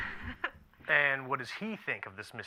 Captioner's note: Marla laughs